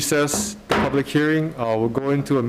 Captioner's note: gabble banging